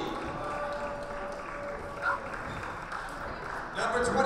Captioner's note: cheering